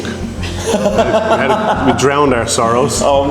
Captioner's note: laughs